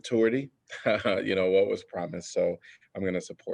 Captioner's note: laughter